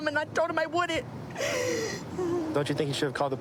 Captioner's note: sobbing